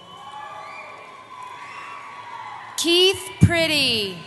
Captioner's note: cheering